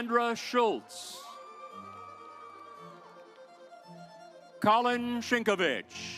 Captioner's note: audience applauds